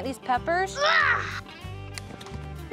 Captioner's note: grunts